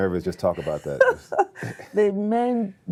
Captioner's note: laughs